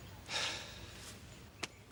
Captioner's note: sighs